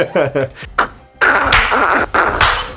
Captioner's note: laugh